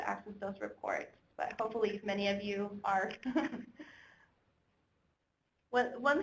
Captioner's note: chuckling